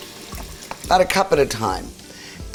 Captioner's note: stock burbling